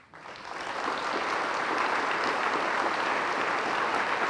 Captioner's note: audience applauding